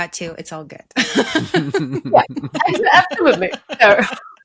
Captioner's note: all laugh